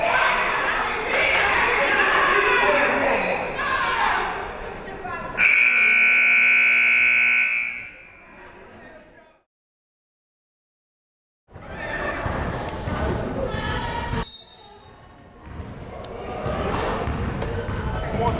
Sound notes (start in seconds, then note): 0.0 crowd cheering; 5.4 buzzer blares; 14.2 whistle blows